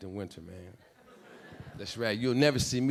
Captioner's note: audience laughing